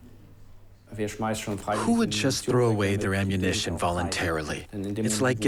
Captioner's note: in German